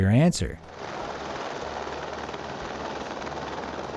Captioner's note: engine roars